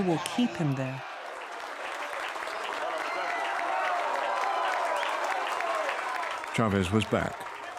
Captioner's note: cheers and applause